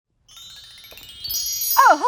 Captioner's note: tinkling chime